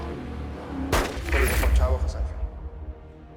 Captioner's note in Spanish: Disparos